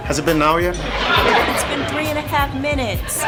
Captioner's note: audience laughs